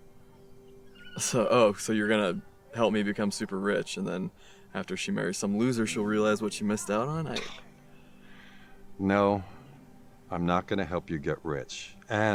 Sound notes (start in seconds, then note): 7.5 Chuck scoffs